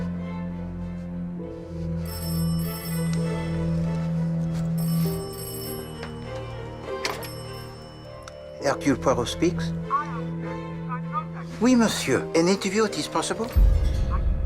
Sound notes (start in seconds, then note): 1.9 telepon berdering